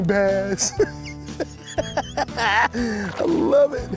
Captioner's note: laughs